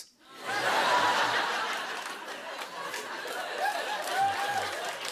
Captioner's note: laughter